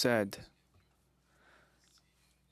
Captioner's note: speaking French